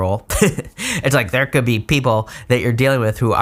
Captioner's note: chuckles